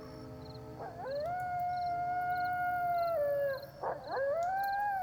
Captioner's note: coyote howls and barks